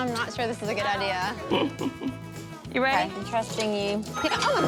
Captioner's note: chuckles